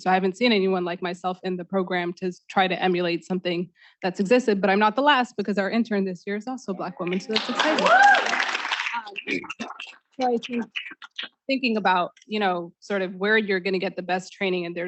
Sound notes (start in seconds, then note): 7.1 students clapping